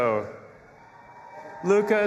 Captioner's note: audience applauding and cheering